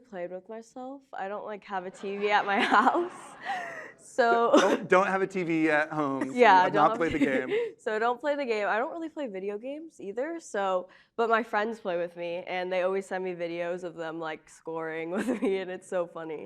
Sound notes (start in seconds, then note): 10.3 laughter